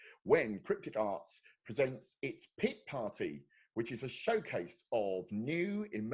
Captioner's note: none